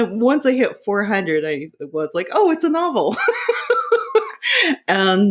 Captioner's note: laughing